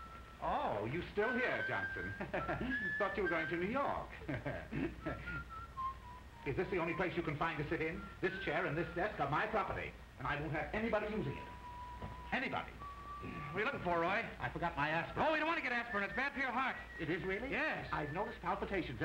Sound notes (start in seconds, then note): 1.2 whistles